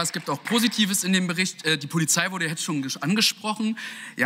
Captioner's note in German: Beifall